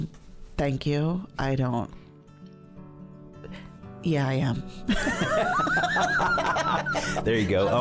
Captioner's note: laughing